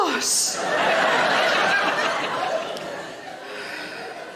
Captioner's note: audience laughing